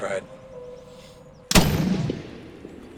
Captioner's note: gunshot; birds scattering